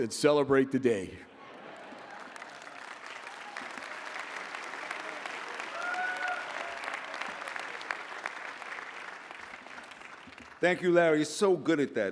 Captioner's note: laughter; applause